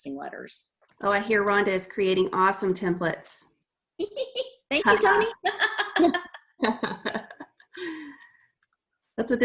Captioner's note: laughing